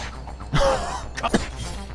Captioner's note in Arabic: ضحكة مكتومة